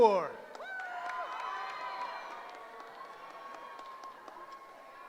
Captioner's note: cheering